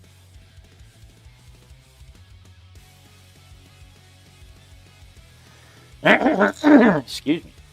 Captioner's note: clears throat and cough